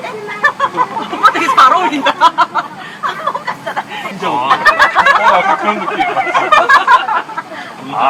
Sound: laughs

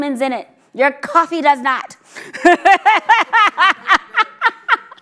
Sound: laughs

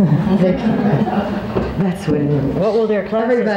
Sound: laughs

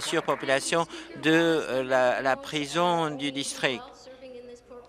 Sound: applause

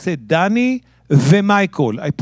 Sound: speaking in Hebrew

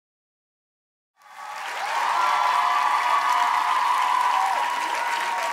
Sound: audience cheering

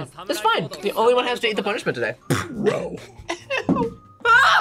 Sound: laughs

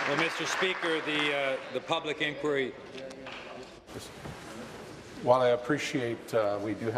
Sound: applause

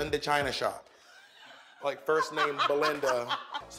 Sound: laughs

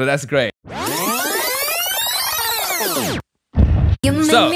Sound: tape rewinding

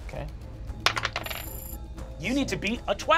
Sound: die clatters

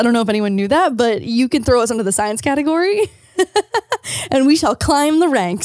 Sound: laughs

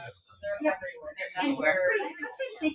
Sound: people chatter

